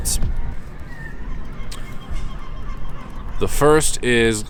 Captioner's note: birds calling